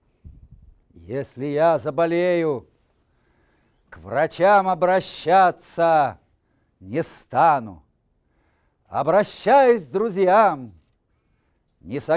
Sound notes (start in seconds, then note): 1.1 reciting poem in Russian